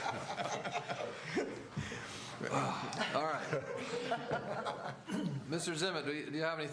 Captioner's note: laughter; laughter